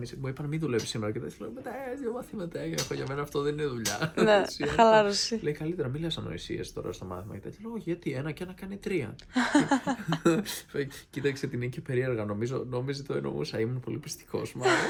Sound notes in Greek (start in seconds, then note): 9.3 γέλια; 14.6 γέλια